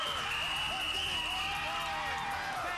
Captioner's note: cheers and applause